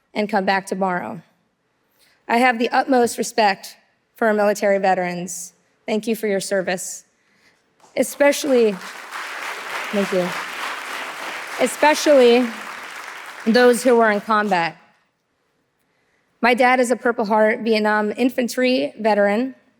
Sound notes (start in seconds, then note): 7.9 audience applauding